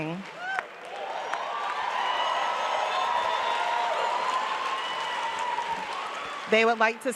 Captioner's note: applause